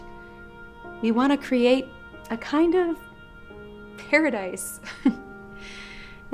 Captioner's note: chuckles